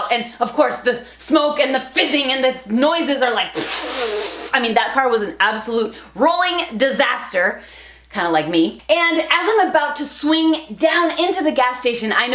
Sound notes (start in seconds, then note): 3.6 air rushing